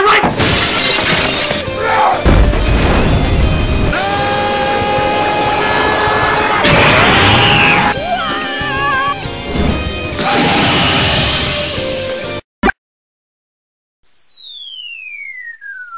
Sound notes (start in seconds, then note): 7.8 super saiyan sound; 12.5 bloop